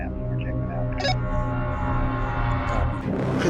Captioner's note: radio chirps